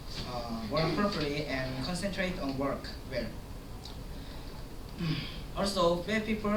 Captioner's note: sigh